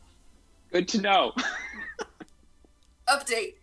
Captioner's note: laugh